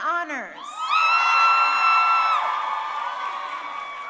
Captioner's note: crowd cheering